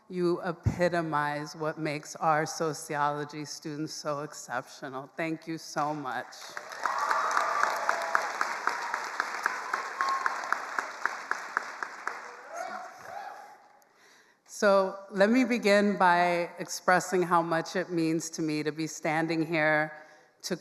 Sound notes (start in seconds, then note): 6.5 attendees cheering and applauding